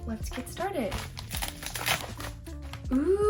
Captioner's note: crunchy noises